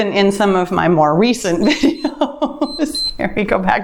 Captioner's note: timer beeps